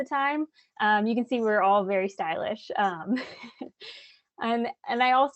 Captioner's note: chuckles